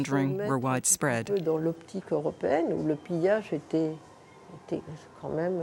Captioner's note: French spoken audio